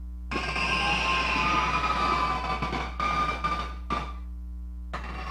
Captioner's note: audience cheering